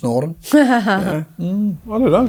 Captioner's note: chuckles